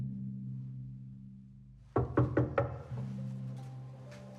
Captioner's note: suspenseful music; knocks